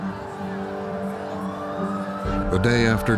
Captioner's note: sirens blaring